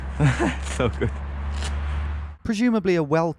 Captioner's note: laughs